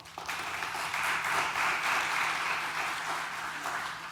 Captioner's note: audience applauding